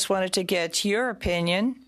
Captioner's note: speaking in French